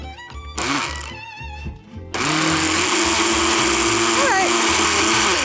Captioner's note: blender whirring